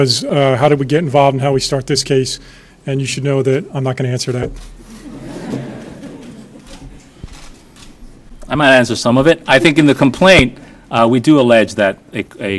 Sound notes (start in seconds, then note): 5.0 laughing